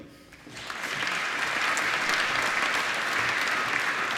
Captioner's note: applause